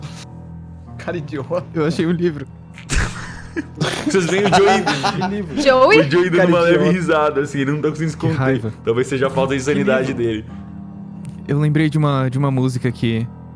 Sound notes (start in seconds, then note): 6.2 giggling